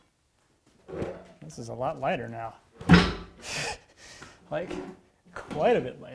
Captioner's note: laughs